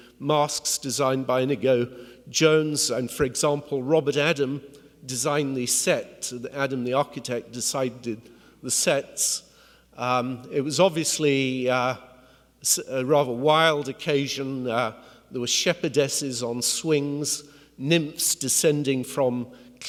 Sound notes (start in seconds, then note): none